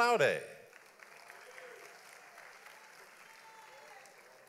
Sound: audience applauds

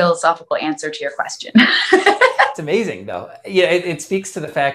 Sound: laughs

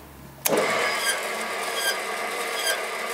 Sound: regular squeaking

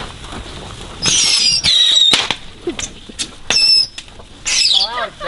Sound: high pitched cracks

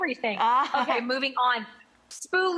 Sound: chuckles

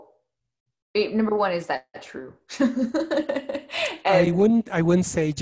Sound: giggles

